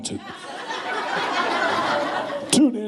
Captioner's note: laughing